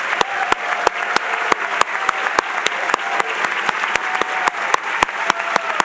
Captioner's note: applause